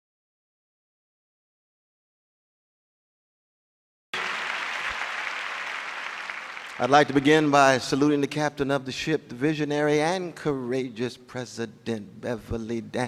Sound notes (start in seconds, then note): 4.1 applause